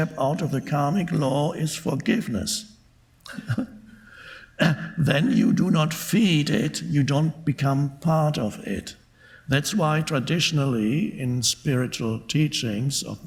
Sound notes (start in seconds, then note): 3.2 Eckhart laughing